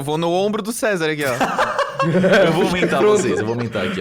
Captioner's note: laugh